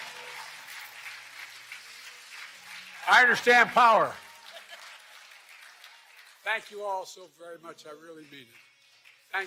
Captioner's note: applause